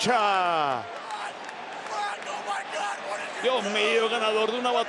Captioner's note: applause